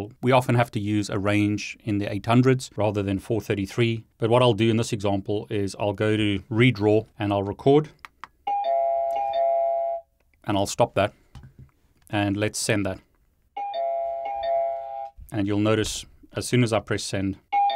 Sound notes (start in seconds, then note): 8.4 doorbell rings; 13.6 doorbell rings